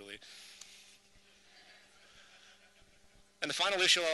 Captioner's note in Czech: hihňání publika